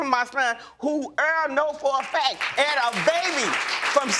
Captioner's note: audience applauding